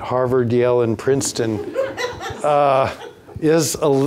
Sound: audience laughs

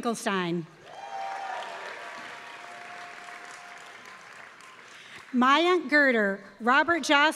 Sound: applause

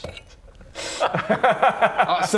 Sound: laughs

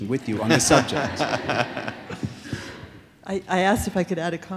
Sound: laughter

